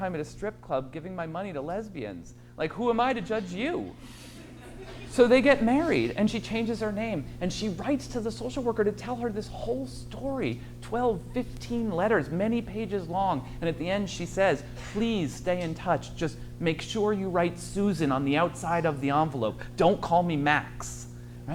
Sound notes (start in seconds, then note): 2.9 audience laughs